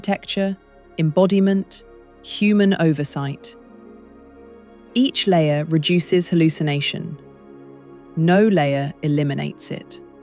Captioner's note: serious tone